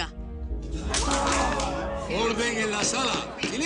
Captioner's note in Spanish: Aplausos